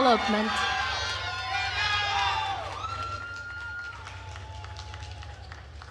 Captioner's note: attendees cheering and applauding